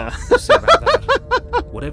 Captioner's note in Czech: smích